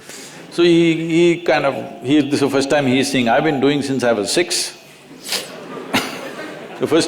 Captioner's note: laughter